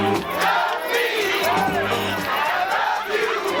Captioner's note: chanting